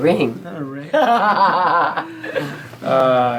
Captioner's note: laugh